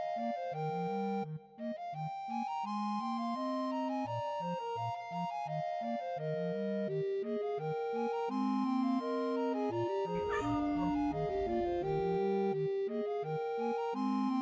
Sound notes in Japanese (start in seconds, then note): 8.0 クンクン。